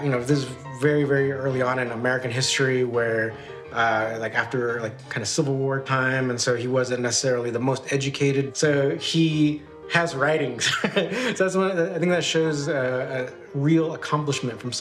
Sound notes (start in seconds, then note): 10.6 laughs